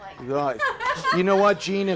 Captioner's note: laughs